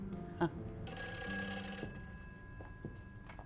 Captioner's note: ringing